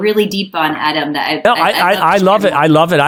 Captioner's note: speaks faintly